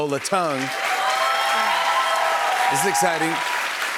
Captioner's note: cheers and applause